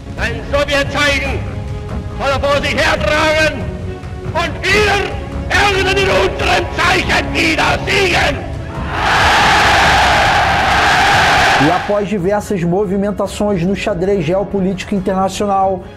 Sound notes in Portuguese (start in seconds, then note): 0.2 discurso de Hitler - em alemão - em voz alta para multidão; 8.8 som da multidão reagindo